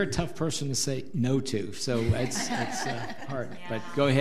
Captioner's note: audience laughs